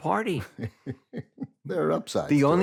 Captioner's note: chuckles